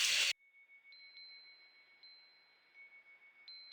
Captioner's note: chimes ringing